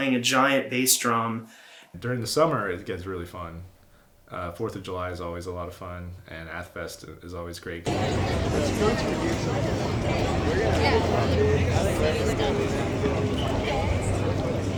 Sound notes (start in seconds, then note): 8.3 wind crackling